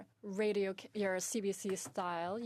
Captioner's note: speaking in French